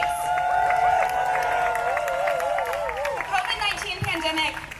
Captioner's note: cheering